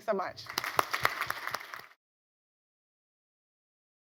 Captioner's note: applauding